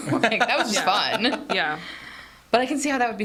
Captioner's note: laughing